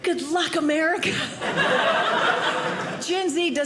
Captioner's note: audience laughing